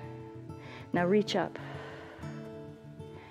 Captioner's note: exhales